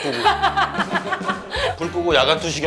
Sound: hahahaha

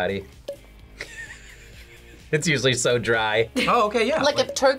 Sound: laughs

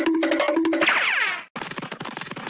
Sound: running in Air Noises; pew

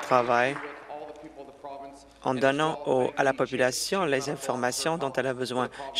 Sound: applause

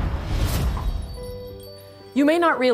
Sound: glass breaking

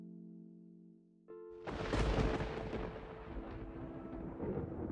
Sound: thunder cracks the sky

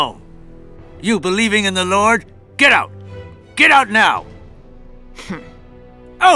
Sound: hmm!

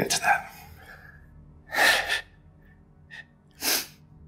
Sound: Alister sobs

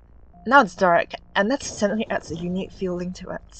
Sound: thunder strikes

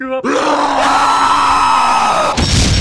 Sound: screaming in fear; yelling

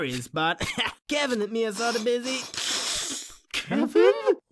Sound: chuckles

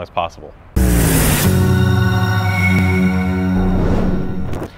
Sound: logo whooshing

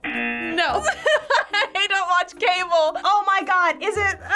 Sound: buzzer rings; laughs

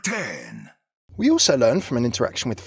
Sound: voiceover

